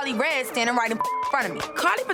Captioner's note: beep